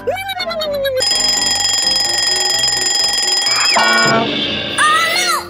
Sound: alarm clock ringing

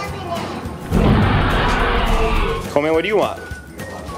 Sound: dinosaur roar

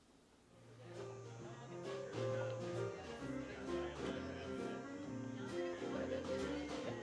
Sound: people chattering; upbeat country music

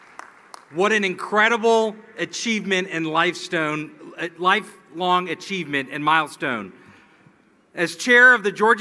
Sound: applause; cheering and Applause

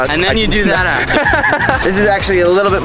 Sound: laughs

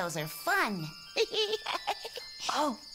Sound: laughing; Tobee laughing

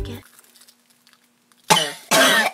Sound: coughs

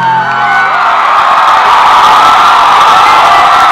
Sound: crowd cheers

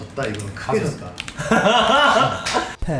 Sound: laughing

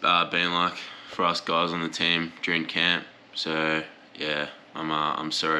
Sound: none

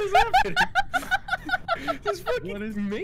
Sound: laughter

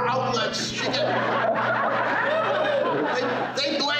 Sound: crowd laughing

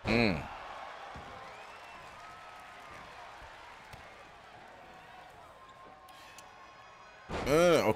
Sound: applause

